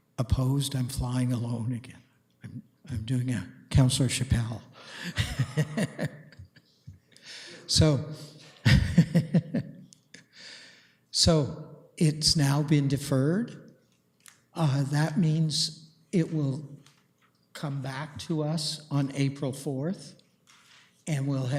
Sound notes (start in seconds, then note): 5.0 laughs